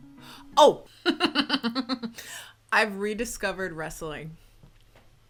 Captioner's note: laughs